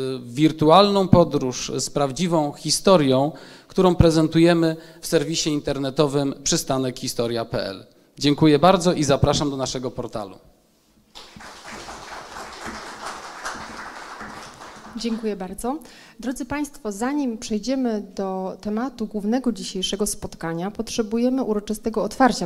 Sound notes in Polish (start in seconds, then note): 11.1 oklaski